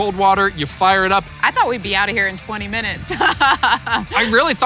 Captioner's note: laughs